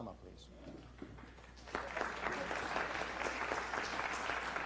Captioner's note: applause